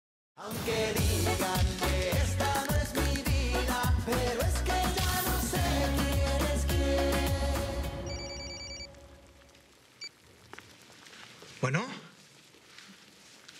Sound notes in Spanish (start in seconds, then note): 8.0 Suena el celular